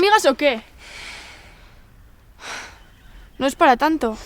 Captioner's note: Ura sighs